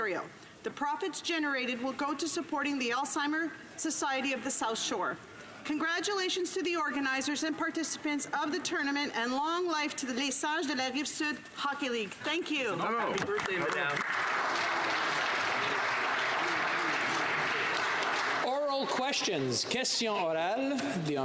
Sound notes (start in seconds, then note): 14.0 speaking French; 17.2 some Applause